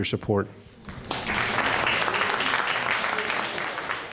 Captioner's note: applauding